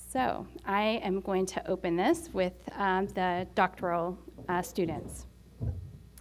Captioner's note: none